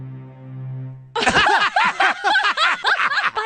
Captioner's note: laughter